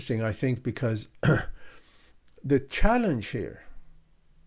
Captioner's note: clears throat